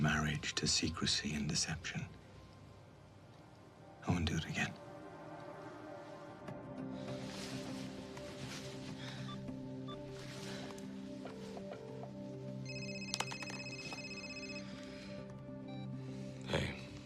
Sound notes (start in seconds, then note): 9.5 dialing; 12.6 line ringing; 12.6 cell phone ringing